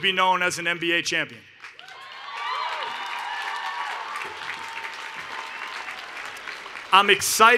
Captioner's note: cheering and Applause